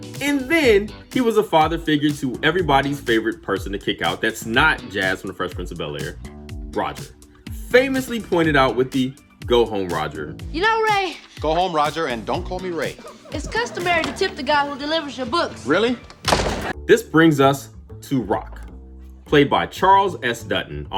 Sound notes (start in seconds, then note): 16.1 door slams